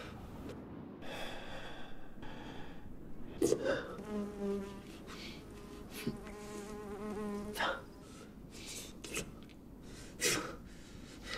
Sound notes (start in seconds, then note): 3.9 fly buzzing